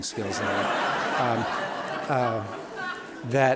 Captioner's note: audience laughing